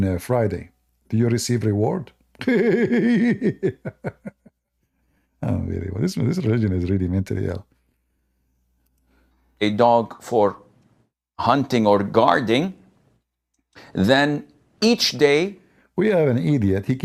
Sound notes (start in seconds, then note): 2.4 Ketawa